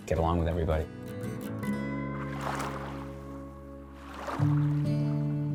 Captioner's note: gurgle of waves softly lapping